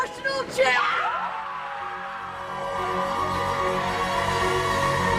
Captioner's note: cheering